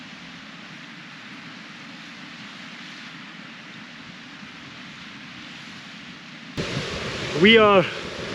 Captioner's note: water running